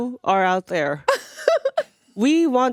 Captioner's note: laughing